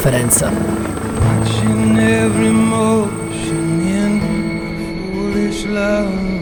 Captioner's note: helicopter